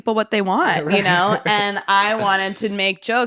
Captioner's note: laughs